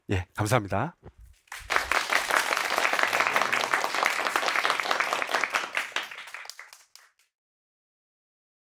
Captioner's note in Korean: 환호와 박수